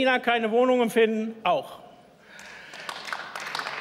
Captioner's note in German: Beifall